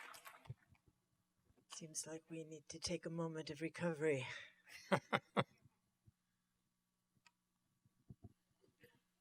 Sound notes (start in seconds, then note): 4.7 laughter